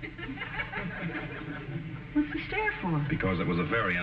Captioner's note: audience snickering